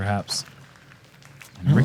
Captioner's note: applause